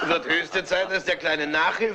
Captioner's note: all laugh